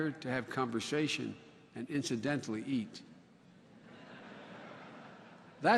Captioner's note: laughter